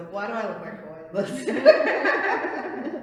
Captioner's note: laughter